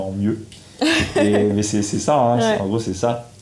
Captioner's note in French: Rires